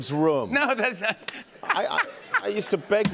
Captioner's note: laughter